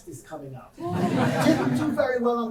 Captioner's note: audience laughing